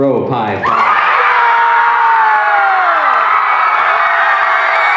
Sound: yeahhhhhhh!!!!

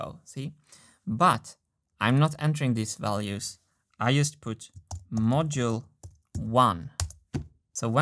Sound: keystroke

